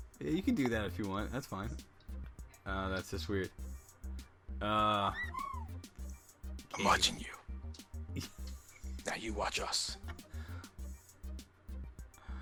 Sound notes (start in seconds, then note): 5.3 whispers